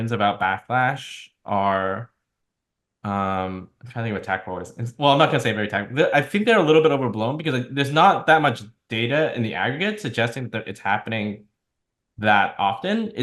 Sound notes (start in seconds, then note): 4.6 speaking faintly